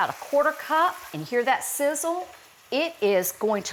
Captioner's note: vinegar sizzling